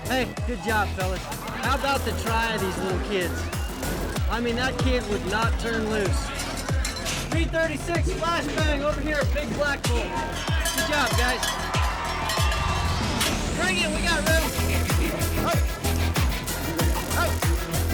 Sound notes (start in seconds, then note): 11.5 cowbells jingling; 14.6 upbeat music; 17.7 upbeat music